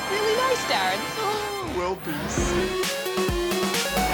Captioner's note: laughs